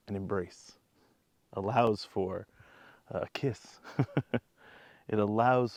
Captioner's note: laughs